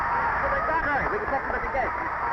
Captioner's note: drowned out crowd cheering